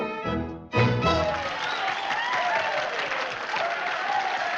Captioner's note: men cheering; applauses